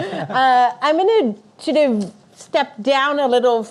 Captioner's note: audience laughing